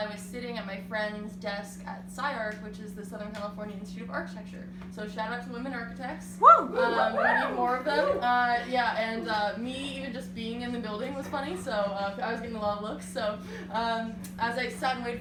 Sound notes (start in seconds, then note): 6.4 audience:"whoo!"